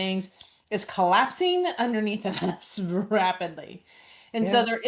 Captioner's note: laughs